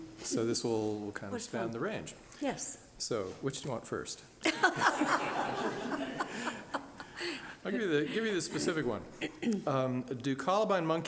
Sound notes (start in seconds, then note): 4.5 laughing